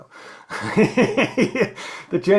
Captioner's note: laughs